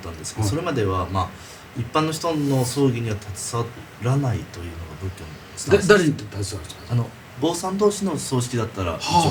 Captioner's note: laughs